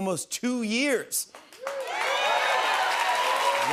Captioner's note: cheers and applause